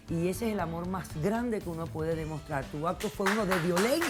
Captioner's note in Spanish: Aplausos